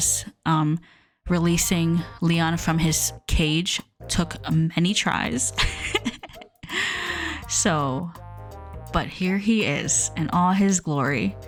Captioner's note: laughs